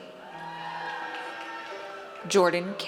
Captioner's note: audience cheers